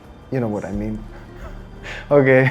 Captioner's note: laughter